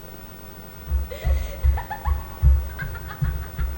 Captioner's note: pounding